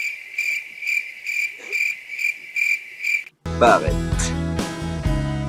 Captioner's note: cricket sounds; theme song